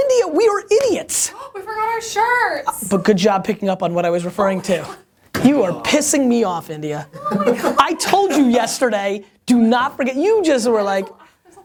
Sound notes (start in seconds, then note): 7.1 laughter